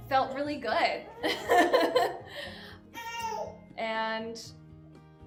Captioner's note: laughing